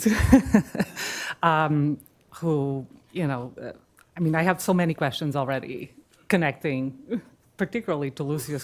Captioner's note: laughs